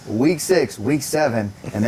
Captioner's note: laughing